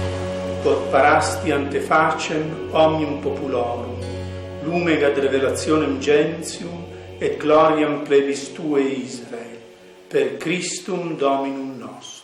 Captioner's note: sermon in Latin